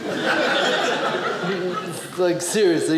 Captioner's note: audience laughing